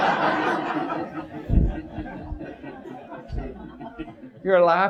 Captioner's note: audience laughs